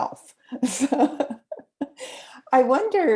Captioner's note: laughing